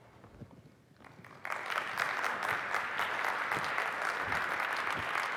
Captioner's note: applause